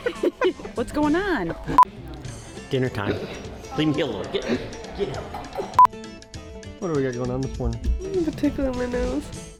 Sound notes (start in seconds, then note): 0.0 laughing; 1.8 sharp beep; 5.9 sharp beep